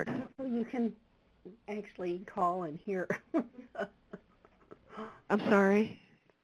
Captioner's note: laughs